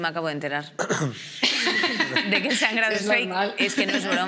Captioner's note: others laugh